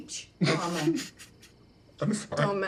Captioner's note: snickering